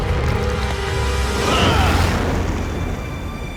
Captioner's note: grunting